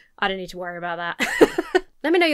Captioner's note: laughs